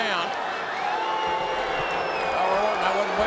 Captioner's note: crowd clamoring